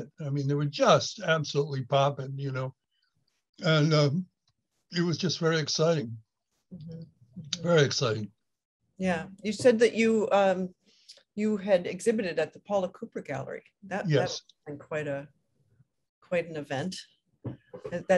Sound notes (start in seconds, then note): 14.0 microphone cuts out